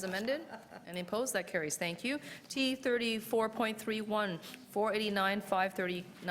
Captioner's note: laughter